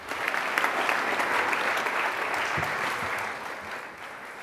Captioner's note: audience clapping